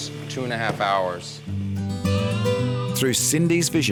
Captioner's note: sheep bleats